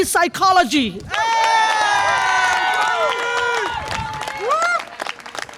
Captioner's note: audience applause and cheer